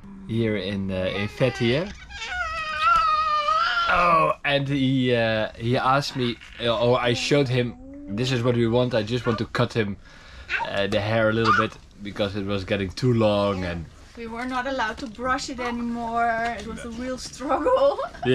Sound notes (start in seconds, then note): 0.9 screeching